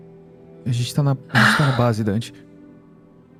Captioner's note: sigh